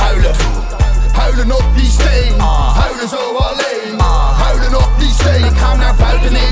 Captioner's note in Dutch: aah